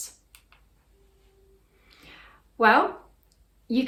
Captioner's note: mouse clicks